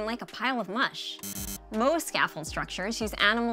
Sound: x buzzes

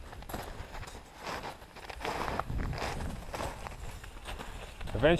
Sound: footsteps crunching

